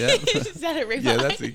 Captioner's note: laughing